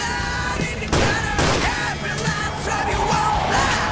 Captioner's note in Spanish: Disparos